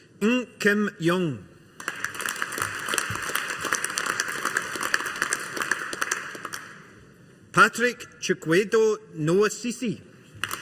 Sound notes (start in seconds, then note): 1.8 audience applauding; 10.4 audience applauding